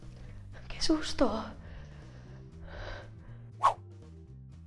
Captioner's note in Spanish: suspira